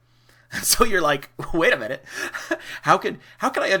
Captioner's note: chuckles